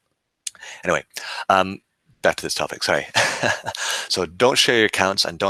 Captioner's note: laughing